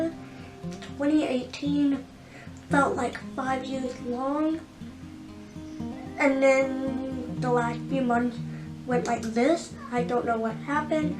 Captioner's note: snaps